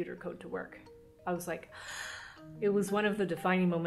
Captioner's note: gasps